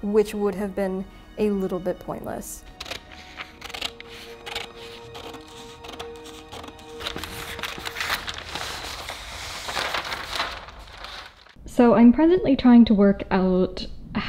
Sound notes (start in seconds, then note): 3.5 scissors snip; 7.7 paper rustles